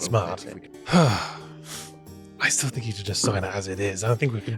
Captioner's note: sighs